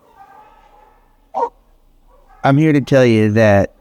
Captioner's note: dogs bark